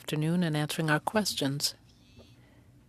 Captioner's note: speaking French